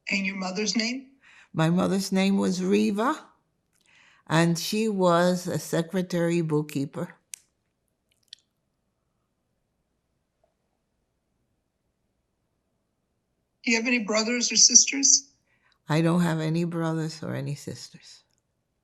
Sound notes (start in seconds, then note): 8.6 pauses 6 seconds